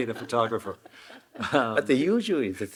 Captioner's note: Hiroshi chuckling